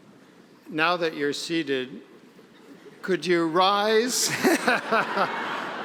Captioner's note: laughing